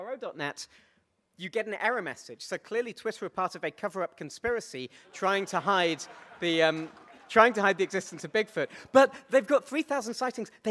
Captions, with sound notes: to tweet a link to BFRO.net you get an error message. So clearly Twitter are part of a coverup conspiracy trying to hide, (audience laughs) trying to hide the distance to Bigfoot. But they've got 3000 sightings.